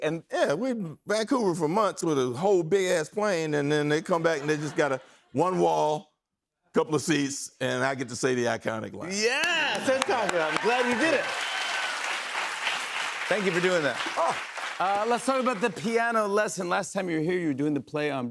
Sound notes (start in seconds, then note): 9.2 cheers and applause